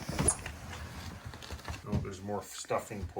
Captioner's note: heavy footsteps